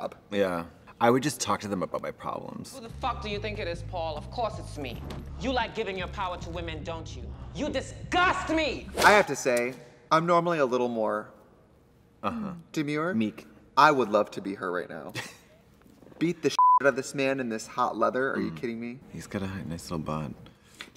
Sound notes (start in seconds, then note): 16.6 beep